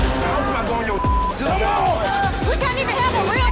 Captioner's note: group clamoring